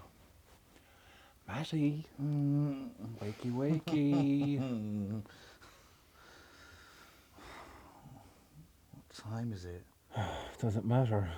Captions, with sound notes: Matty! [Sighs] What time is it? Does it matter?